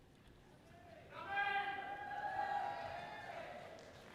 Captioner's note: person shouts encouragingly; audience cheering loudly